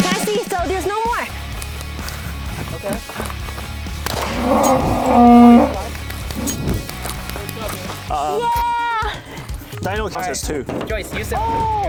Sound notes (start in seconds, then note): 4.0 gun pops; 4.3 bonus hit roars